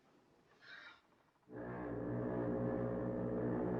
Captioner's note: foghorn Blows